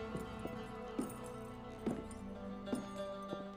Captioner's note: bootsteps, spurs jingling